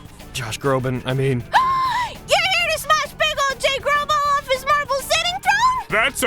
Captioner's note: gasp!